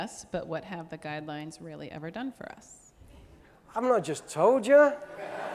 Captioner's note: audience laughing